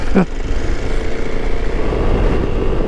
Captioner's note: laughs